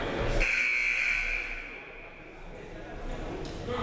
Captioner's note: buzzer